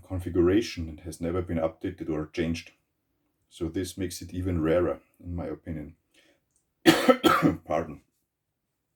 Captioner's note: coughs